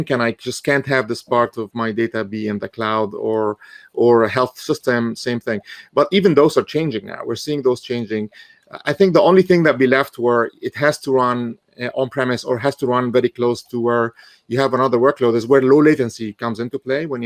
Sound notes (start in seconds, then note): none